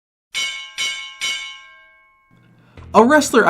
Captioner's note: bells ringing